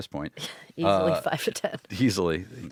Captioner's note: laughs